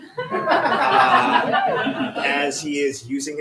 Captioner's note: laughter